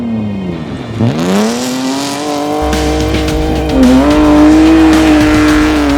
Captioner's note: car roaring loudly; intense dramatic music